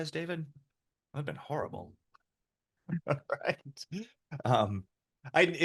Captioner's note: laughs